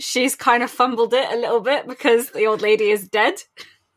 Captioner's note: laughs